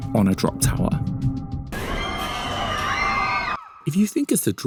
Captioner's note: people screaming